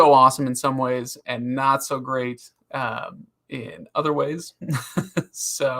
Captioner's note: laughs